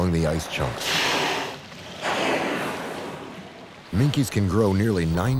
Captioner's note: water sprays